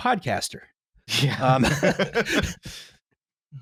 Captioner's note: laughter